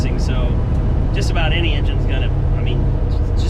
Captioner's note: car engine rumbling